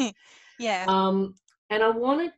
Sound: laughs

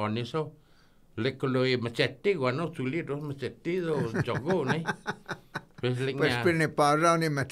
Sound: laughing

